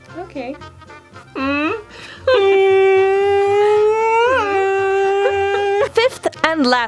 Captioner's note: humming